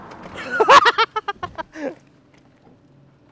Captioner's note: laughs again